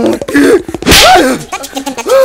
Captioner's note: Slaps